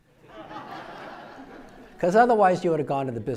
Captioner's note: audience laughing